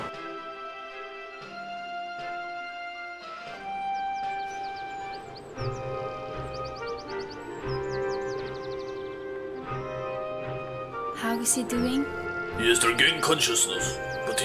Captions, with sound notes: (Pleasant music) (Birds chirping) (Upbeat music) - How is he doing? - He has regained consciousness